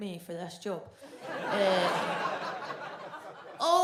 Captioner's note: audience laughs